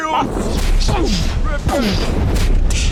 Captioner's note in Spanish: Boom